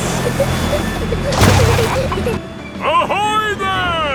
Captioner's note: peppa and george giggling